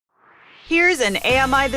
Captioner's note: swoosh